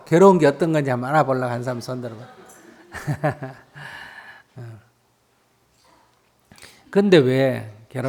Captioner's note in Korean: 스님 웃음